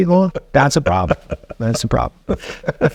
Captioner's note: laughing